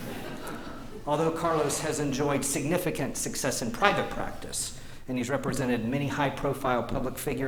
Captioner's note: laughter